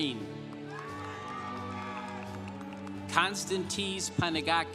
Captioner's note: congregation applauding